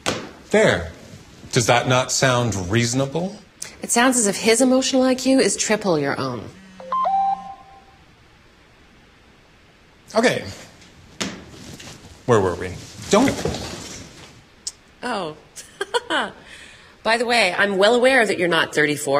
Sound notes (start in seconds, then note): 6.6 phone beeps; 15.6 laughs